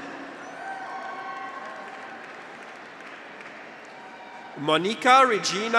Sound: graduates cheer; audience applauds

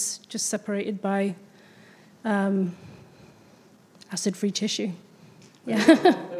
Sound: laughs

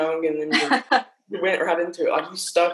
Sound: laughing loudly

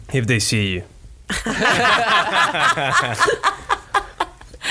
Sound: laughs

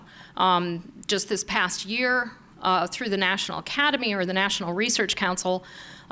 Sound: none

